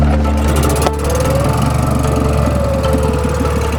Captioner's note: motor revving